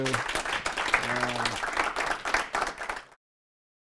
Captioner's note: audience clapping